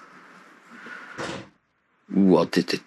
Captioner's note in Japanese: ドアが閉まる音